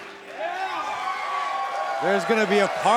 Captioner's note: crowd cheers